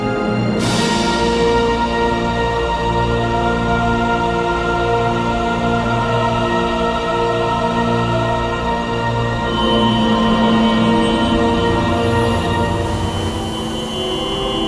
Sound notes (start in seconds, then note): 9.4 buzzing